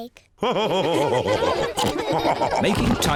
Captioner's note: all laugh